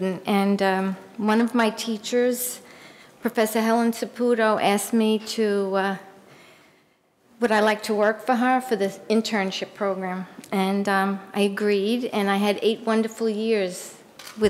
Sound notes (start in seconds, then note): none